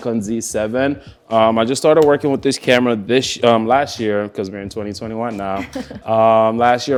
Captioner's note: laughs